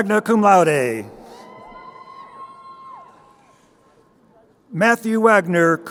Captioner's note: crowd cheering